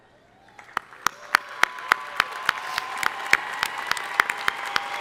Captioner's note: crowd applauding